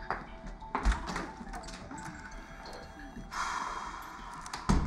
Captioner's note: door opens, closes